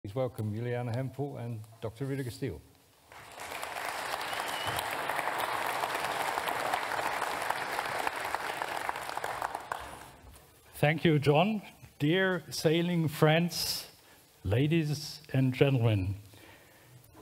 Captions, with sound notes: Please welcome Juliane Hempel and Dr. Rüdiger Stihl. (audience applauds) Thank you, John. Dear sailing friends, ladies and gentlemen,